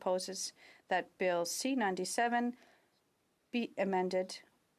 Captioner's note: speaking french